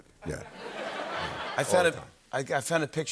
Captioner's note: laughter